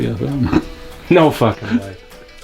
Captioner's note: chuckles